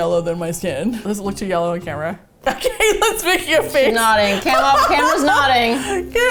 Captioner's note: laughs